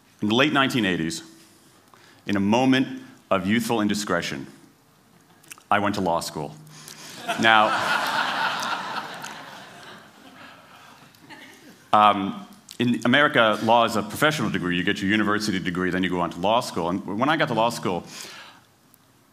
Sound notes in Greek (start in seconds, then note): 7.1 Γέλια